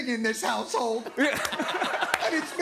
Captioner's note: laughter